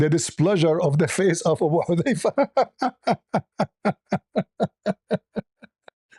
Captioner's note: ketawa